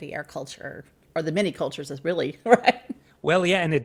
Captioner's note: laughs